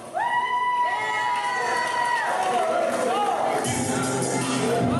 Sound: audience cheering

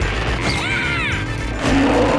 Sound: exciting music; growling

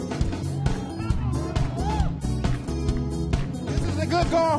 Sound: audience cheering

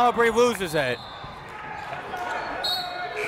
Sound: whistle

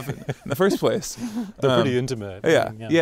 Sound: laughing

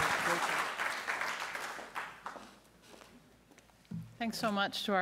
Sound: applause

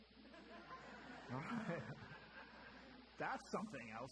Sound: audience chuckling

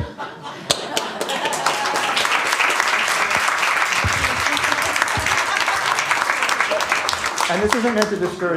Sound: laughter; applause

